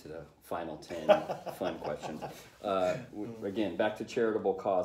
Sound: laughter

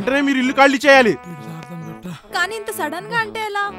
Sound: panting

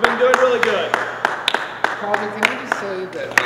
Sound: clapping

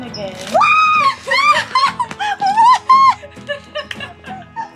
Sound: screams

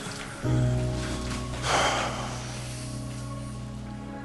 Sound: sighs

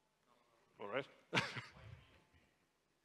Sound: chuckles

